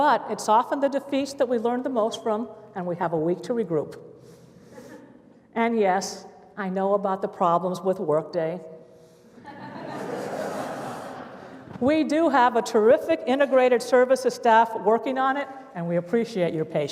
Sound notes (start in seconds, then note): 4.7 laughter; 9.3 laughter